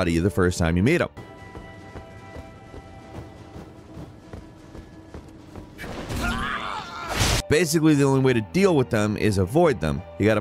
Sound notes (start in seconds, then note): 4.3 footsteps clomping; 6.0 character screams